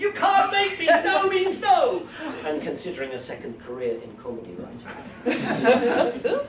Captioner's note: laughter